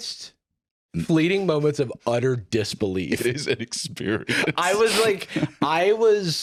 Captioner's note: laughing